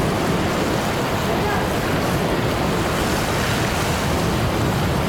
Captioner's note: ocean waves crashing